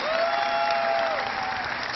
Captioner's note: cheering